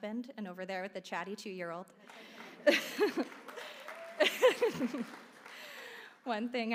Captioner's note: laugh; applause